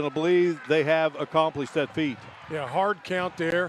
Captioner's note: applause